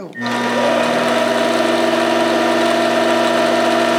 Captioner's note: machine whirring